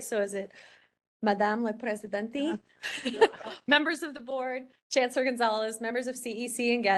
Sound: laugh

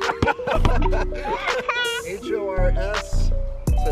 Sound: all laugh

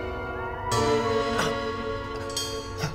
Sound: groans

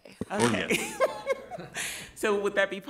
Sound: group laughs

